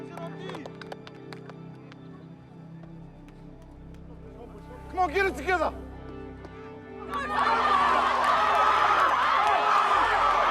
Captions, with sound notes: - Get him, G! - Come on, get it together! (CHEERING, INDISTINCT SHOUTING)